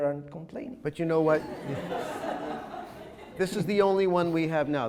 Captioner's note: audience chuckles